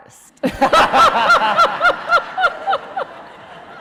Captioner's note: laughing